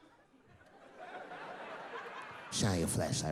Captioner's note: audience laughing